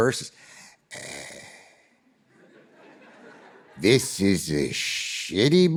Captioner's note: audience laughing